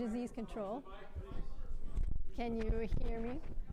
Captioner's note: audience members chattering